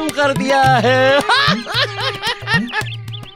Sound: laughs

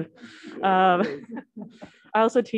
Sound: laughter

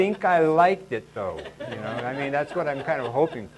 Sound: laughing

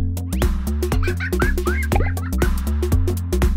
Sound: laughter

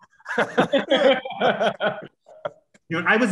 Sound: laughter

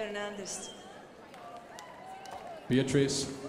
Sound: crowd applauding

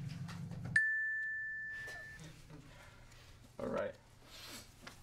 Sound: smile dings

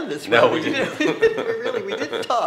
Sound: laugh

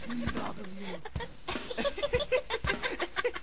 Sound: laughing

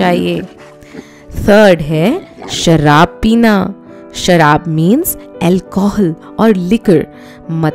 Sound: drinking

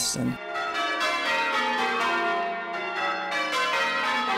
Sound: bells ringing

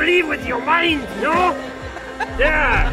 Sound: laughter

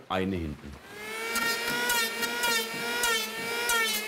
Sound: screeching of the planer

